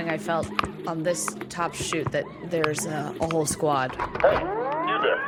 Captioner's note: C.L.I.N.T. racks rifle